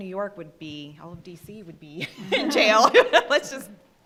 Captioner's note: laughing